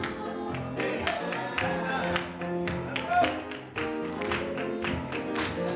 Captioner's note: choir clapping rhythmically